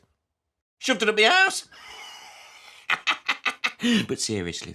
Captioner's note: laughs